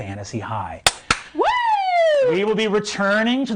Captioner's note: clapping